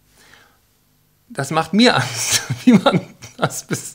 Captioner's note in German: lacht